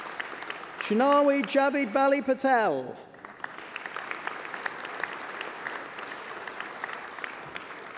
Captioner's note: applause